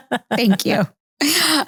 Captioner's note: laughing